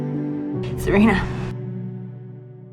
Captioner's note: voiceover